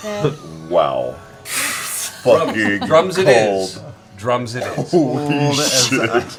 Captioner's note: laughs